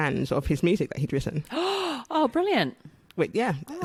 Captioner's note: gasps